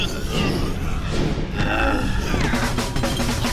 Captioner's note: creatures growling